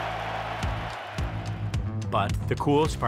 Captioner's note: crowd cheers